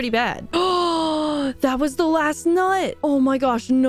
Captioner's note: gasp